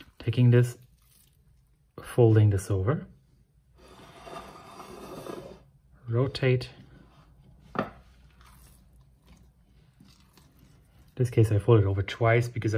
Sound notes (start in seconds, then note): none